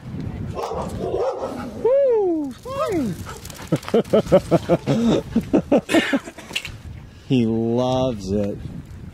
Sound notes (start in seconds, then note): 3.7 laughter